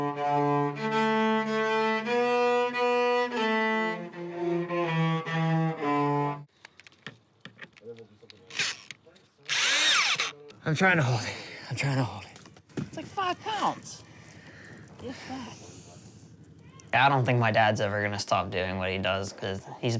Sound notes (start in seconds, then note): 0.0 cello playing; 9.4 whirring